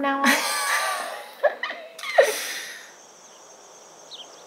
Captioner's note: both laughing